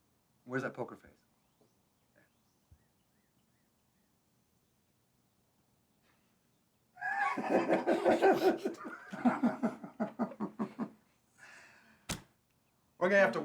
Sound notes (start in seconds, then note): 0.7 playfully; 7.0 all laugh